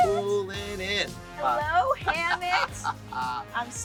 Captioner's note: laughs